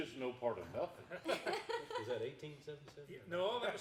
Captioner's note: everyone laughing